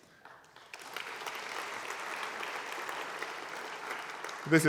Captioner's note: applause